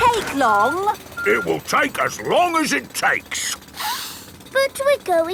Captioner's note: sniffs